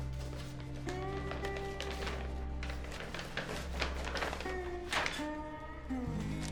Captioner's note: envelope rustling